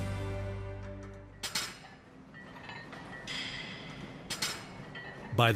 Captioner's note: weights clanking